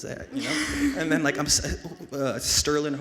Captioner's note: and audience laughs